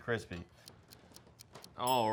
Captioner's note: clock ticking; bell ringing